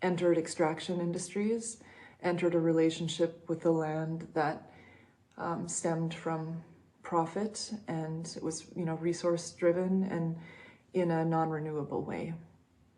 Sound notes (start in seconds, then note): none